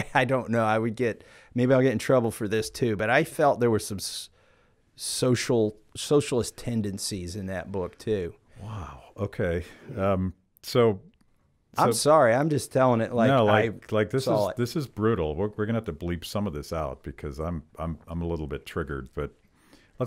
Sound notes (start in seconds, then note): none